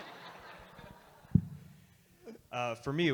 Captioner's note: audience Laughter